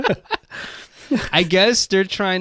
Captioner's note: both laughing